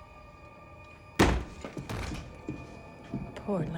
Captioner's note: door thuds